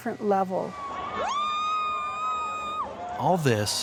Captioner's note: cheering